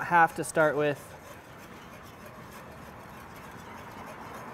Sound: scraping

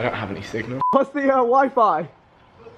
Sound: beep

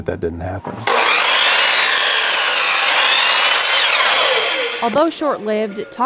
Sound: circular saw whirring

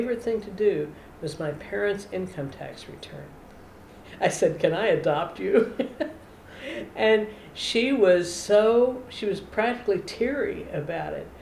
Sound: laughter

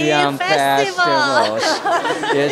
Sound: laughter

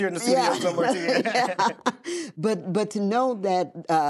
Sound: laughing

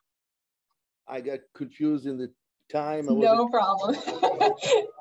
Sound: laughing

